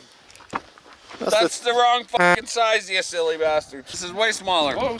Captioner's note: horn beeps